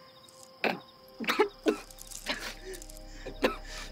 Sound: coughs

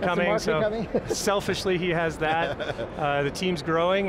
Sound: laughs

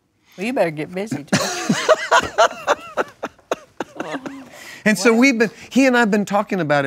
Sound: laughs

